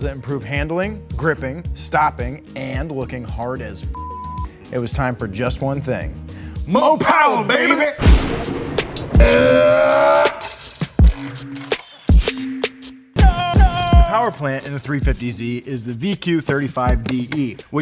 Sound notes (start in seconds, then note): 3.9 beep; 9.1 upbeat music; 9.2 shouts; 10.4 upbeat music